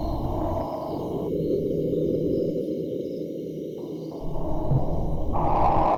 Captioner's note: water gurgles from the stream